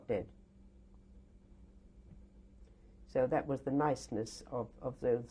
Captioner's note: pauses for 3 seconds